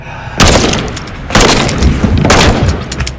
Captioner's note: gunfire